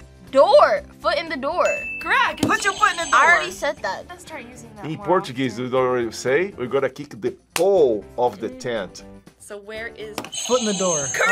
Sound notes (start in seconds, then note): 1.6 bell rings; 2.5 buzzer rings; 10.3 buzzer rings